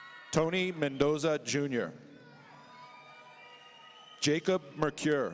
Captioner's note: audience cheering